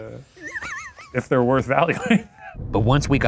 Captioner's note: laughs